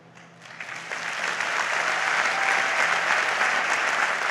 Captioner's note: audience applauds